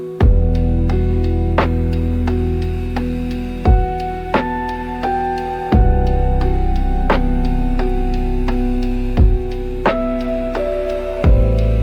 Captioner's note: sound of a slow, heavy heartbeat: Thump-thump... Thump-thump